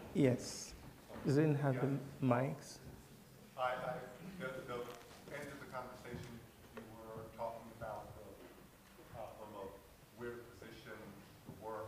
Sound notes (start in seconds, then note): 3.8 voiceover